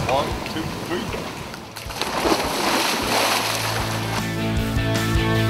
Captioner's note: water splashing